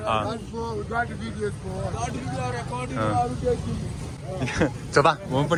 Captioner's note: passers-by start to heckle